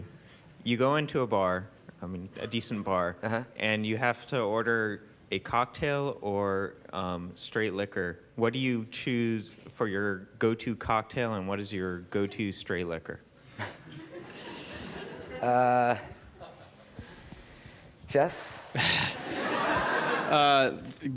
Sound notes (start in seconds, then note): 13.6 chuckling; 18.8 laughter